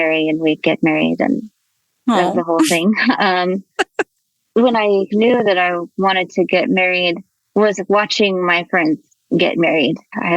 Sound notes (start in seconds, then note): 3.7 chuckles; 3.7 laughs